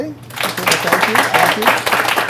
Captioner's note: applause